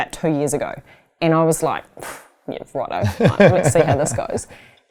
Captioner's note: exhaling